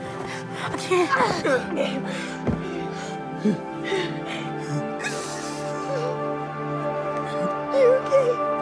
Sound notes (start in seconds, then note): 0.8 groans